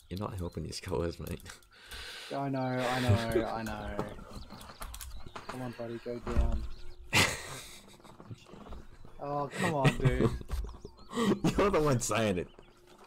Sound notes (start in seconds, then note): 7.0 sniggers